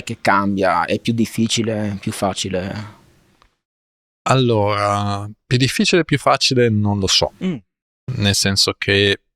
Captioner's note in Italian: schiarire la voce